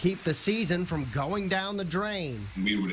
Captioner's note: water falling